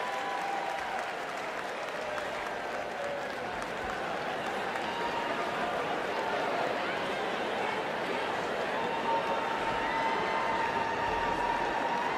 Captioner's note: cheers and applause